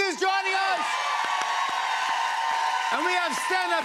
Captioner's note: cheers and applause